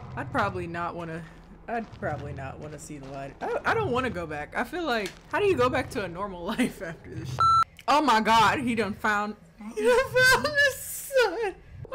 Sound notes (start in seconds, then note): 7.3 beep